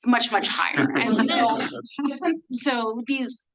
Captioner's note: attendees laughing